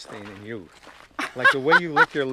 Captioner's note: laughing